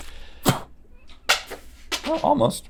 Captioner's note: Rhett spits; Jolly Rancher clatters